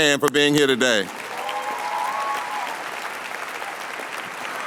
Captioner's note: applause